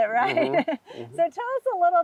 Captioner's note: laughing